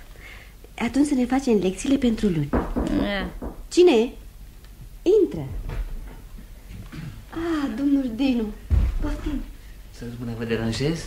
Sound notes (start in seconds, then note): 2.4 there’s a knock at the door